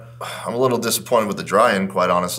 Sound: sighs

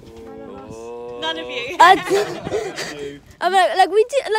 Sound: laughs

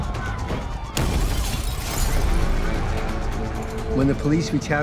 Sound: glass breaking

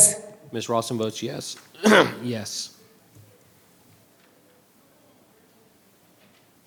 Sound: clears throat

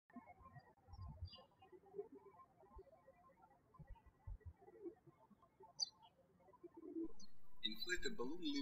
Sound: birds chirping

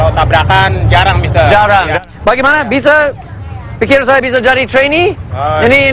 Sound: speaking indonesian; speaking indonesian

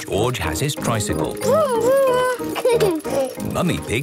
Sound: giggles

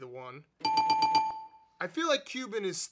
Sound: graphic dinging

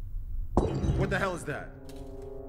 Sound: loud clattering

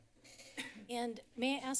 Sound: cough

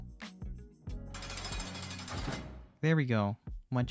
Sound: jail Bars Close

